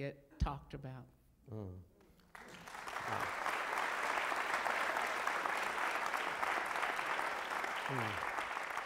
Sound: applause

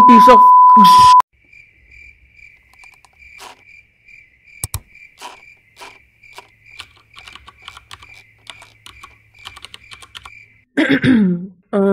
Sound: throat correction

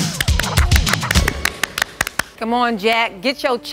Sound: applause

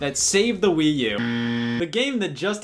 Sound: buzzer sound effect

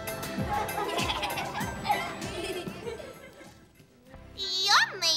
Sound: everyone laughs

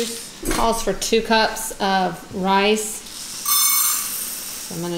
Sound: rattling

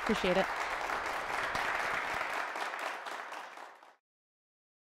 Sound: applause

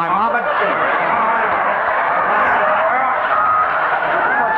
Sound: audience laughing

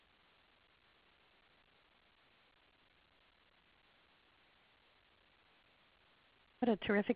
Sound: silence

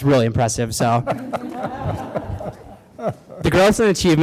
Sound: light laughter

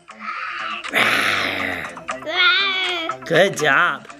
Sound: roaring

